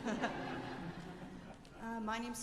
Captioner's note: laughter